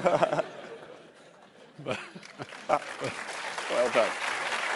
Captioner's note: laughter and applause